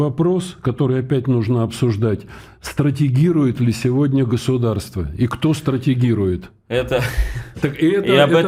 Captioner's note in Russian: смех